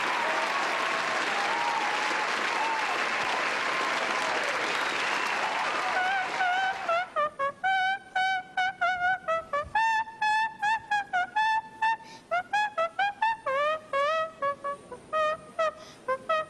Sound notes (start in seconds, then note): 0.0 applause; 5.7 hums